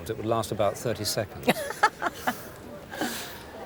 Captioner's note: she laughs